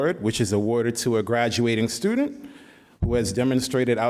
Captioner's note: none